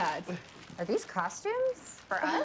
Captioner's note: none